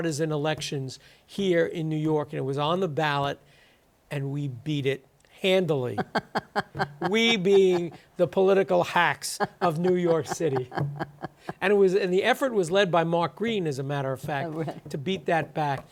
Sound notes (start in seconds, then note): 8.9 laughs